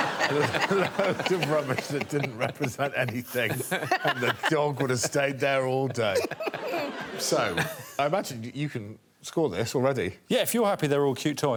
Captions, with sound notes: [all laughing] A load of rubbish that didn't represent anything and the dog would've stayed there all day. [all laughing] So, I imagine you can score this already?